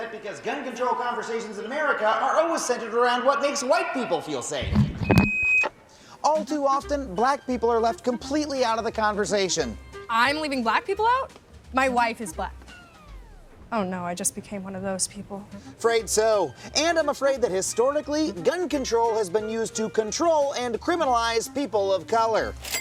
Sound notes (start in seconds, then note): 4.6 feedback; 20.4 cash register cha-ching